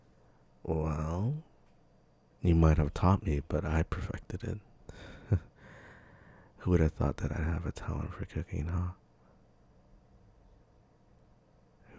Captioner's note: soft laugh